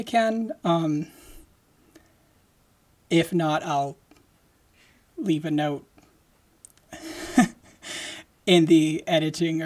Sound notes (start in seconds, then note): 6.9 laughing